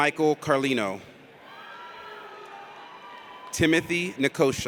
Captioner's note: audience cheers